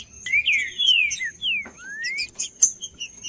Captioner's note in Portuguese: trinca ferro cantando